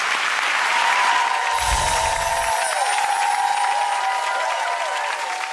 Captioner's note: cheering and applause